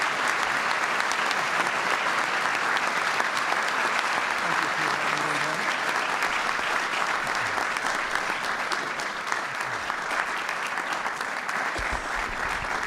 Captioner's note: applause